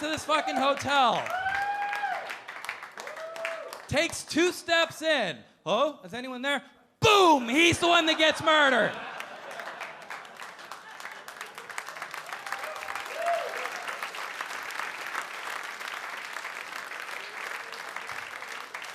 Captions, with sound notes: (audience clapping and cheering) Takes two steps in. "Hello? Is anyone there?" Boom! (audience laughing) He's the one that gets murdered. (audience clapping and cheering)